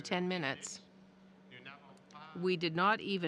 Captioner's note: speaking French